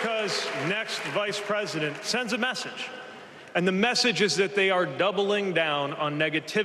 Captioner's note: cheers and applause